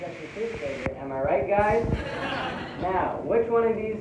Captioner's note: laughter